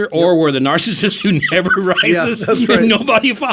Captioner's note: laughing